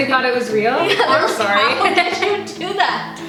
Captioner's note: laughs